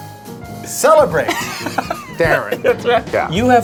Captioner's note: laughs